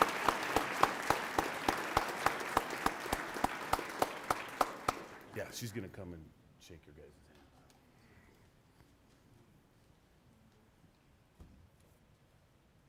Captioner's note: applause